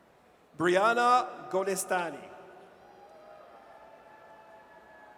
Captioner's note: audience cheers